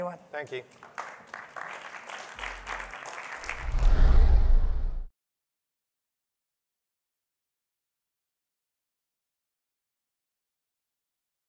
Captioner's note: applause